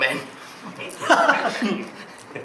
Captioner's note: OR KIA laughs